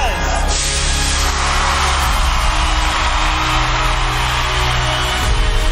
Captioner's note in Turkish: müzi̇k ve alkişlar